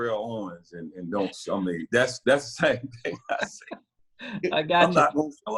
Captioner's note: laughter